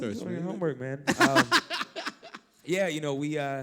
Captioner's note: laugh